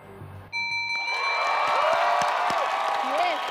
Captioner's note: clock dings, audience cheers